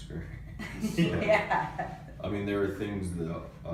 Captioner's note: laughs